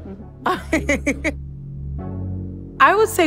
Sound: laughter

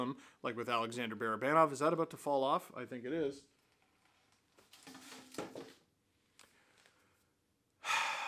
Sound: sigh

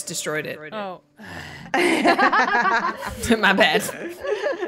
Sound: laugh

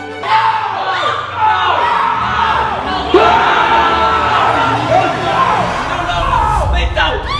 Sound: screaming

